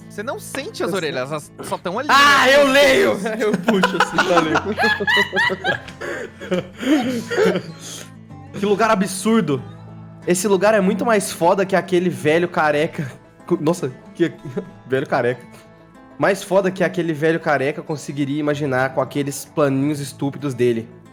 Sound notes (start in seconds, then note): 4.2 players and Master laughing; 13.9 chuckles